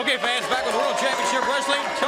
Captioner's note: crowd cheering